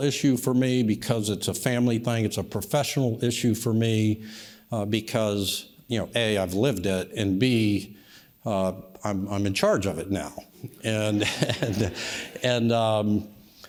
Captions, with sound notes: It's a personal issue for me because it's a family thing. It's a professional issue for me because, you know, A, I've lived it and B, I'm in charge of it now. (laughs) (audience laughs)